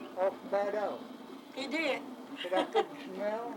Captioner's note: laughs